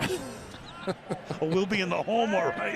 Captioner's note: laughter